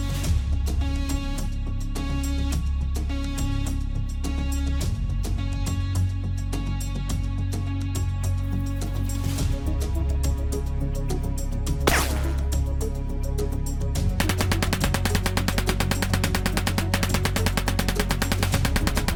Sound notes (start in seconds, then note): 0.9 suspenseful music continues; 9.0 suspenseful music continues; 11.8 bullet whizzing; 12.6 suspenseful music; 14.2 bullets popping